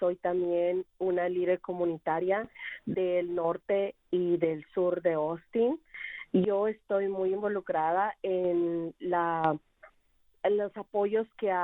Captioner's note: speaking spanish